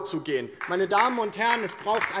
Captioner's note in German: Beifall DIE LINKE